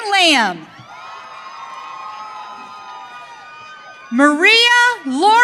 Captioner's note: audience cheering